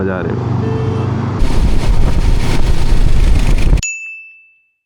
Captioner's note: wind noise